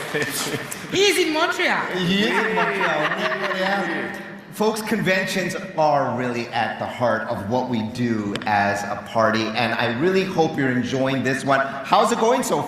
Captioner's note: applause